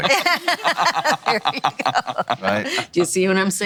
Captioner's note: laughs